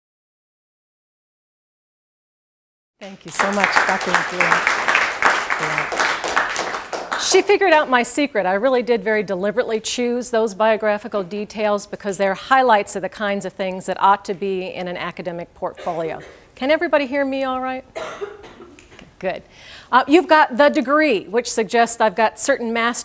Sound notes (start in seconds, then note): 4.7 applause